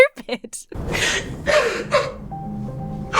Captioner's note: Mary sobs